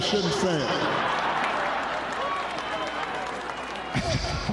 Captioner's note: laughter